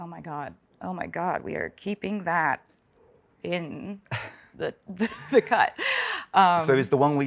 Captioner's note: laughs